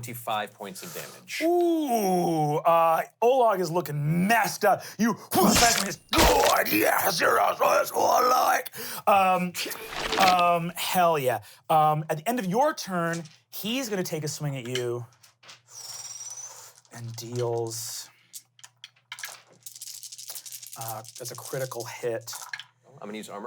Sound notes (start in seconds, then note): 5.9 growls